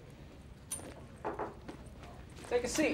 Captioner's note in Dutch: klop op de deur